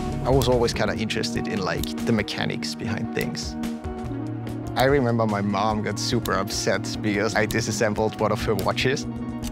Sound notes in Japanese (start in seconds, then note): 5.6 時計の進む音